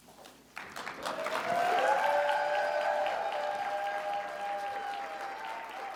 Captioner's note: audience applauding; audience cheering